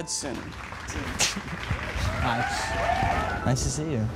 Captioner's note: applauding